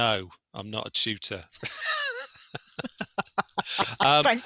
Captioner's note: laughter